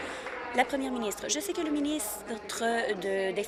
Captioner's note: applause